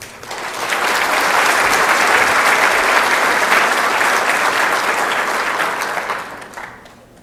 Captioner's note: applause